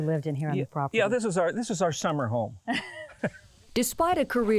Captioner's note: laughs